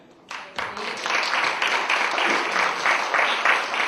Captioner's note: applause